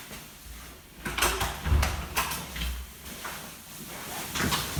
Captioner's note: door opening